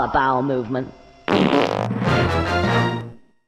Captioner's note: fart sounds